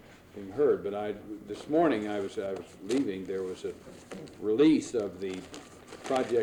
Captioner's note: papers rustling